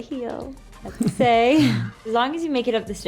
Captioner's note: laughs